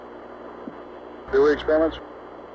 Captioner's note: mission Control Audio